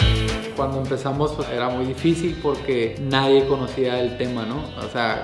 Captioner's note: speaking Spanish